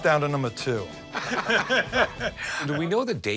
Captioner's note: laughter